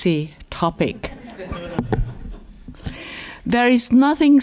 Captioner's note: laughter